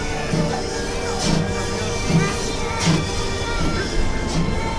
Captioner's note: train leaving